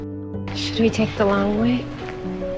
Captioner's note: voiceover